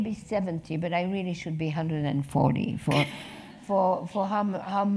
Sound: laugh

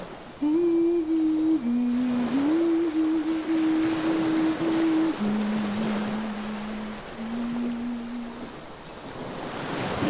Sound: humming

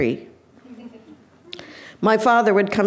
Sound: audience laughing

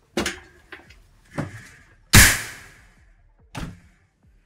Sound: door closing

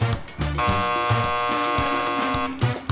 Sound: buzzer

